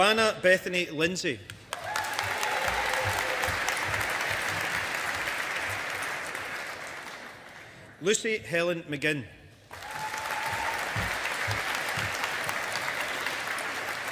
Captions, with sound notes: Joanna Bethany Lindsay. (AUDIENCE APPLAUDING) Lucy Helen McGinn. (AUDIENCE APPLAUDING)